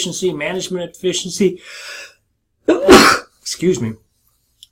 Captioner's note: sneezes